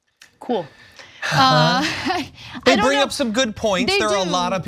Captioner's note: laugh